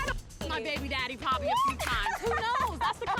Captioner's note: laughs